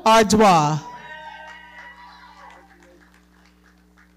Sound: audience cheering and clapping

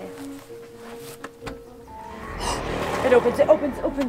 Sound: spooky sounds alerting

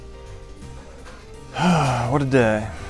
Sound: sighs

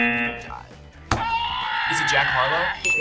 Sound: buzzer sounds; buzzer yells

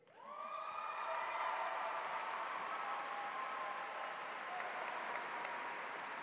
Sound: cheers; audience applauds

